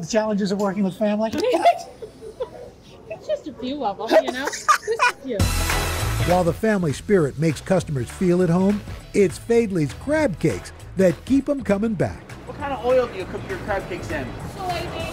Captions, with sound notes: the challenges of working with family? - It's just a few of them, you know? (laughter) - While the family spirit makes customers feel at home, it's Faidley's crab cakes that keep them coming back. - What kind of oil do you cook your crab cakes in?